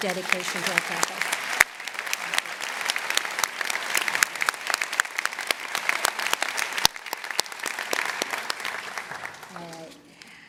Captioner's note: applause